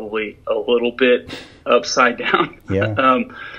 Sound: laughs

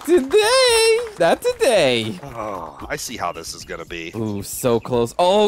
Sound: sigh

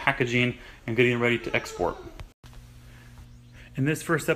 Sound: child crying

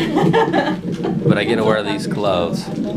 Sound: laughing

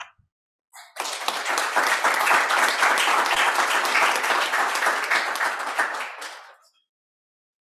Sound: applause

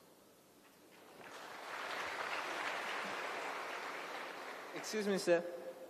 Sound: applause

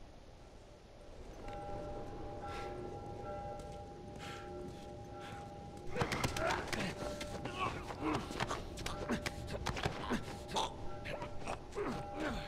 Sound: bell ringing

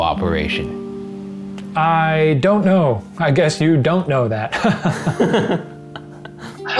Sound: laughs

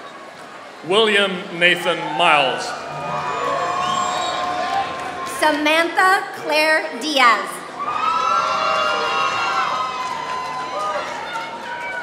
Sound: applause; applause

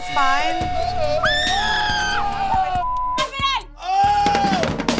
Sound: group yelling; fast drum music

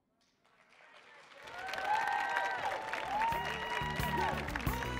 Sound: audience cheering and applauding

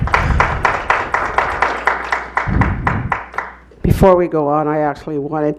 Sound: clapping

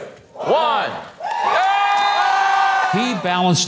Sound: crowd cheering

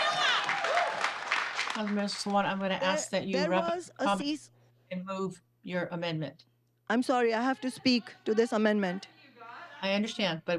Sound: cheering

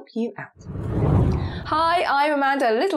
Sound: screen whooshes

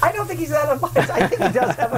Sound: laughter

